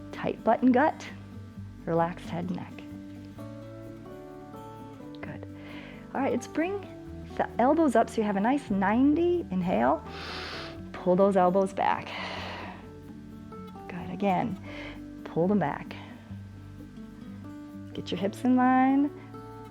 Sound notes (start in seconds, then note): 10.0 exhales; 10.1 inhales